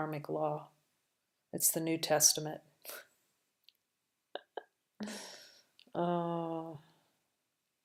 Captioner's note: laughter